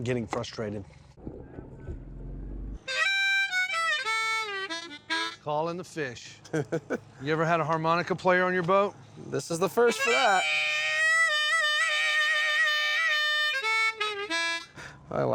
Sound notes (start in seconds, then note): 2.8 harmonica music playing; 6.4 chuckles; 9.8 harmonica music playing